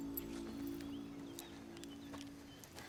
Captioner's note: birds chirping